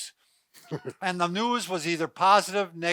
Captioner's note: chuckles